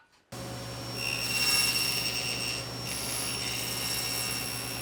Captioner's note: tool squealing